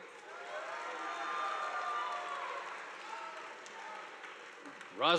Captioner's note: audience applauding